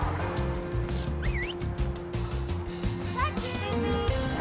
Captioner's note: whistle; car horn